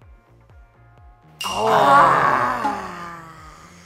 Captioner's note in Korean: 일동 / 탄식